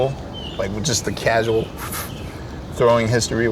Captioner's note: whooshes